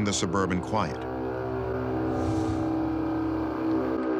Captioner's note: horn-like sound